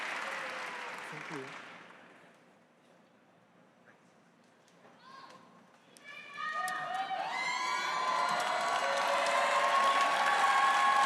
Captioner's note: cheers and applause